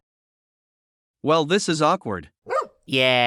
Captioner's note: woof